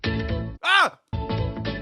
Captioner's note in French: cri épouvanté